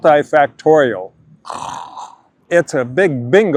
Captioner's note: snores